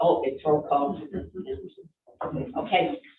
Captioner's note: all chuckling